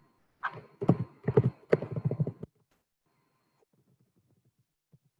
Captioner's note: tapping on keyboard